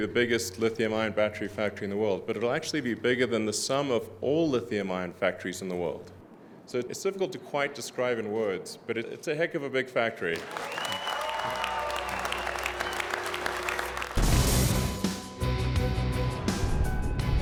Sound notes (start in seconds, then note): 10.3 audience cheering; 14.0 dramatic music